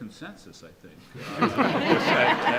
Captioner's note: audience laughs